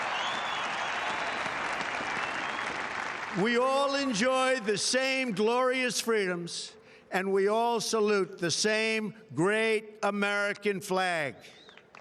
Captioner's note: applause